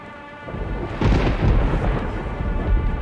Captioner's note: thunders